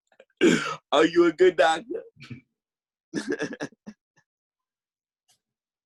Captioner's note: laughing